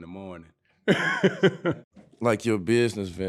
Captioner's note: laughing